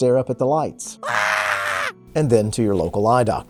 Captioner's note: man Screams